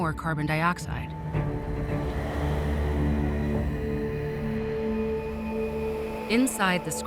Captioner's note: air flowing